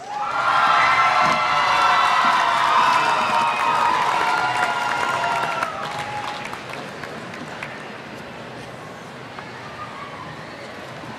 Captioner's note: applause